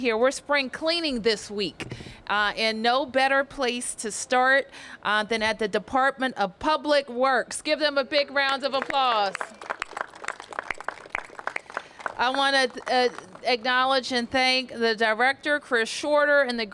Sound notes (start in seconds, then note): 10.3 applause